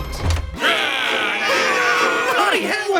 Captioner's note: shouting; screaming